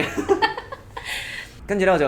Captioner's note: laugh